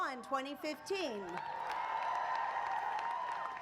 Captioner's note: applause